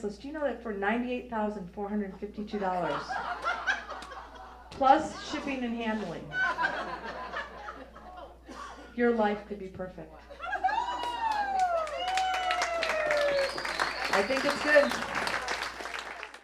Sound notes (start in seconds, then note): 2.4 audience laughs; 10.2 audience laughs